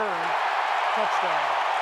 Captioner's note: cheering